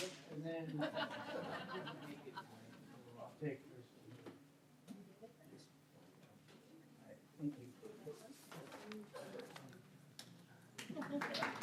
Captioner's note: laughter